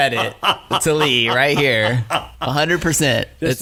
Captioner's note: laughing